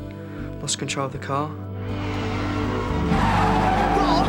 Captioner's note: tires screeching